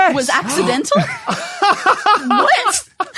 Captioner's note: laughs ecstatically